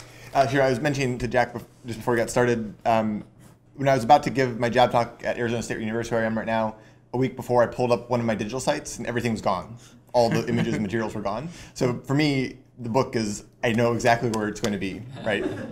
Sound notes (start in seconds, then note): 10.3 laughter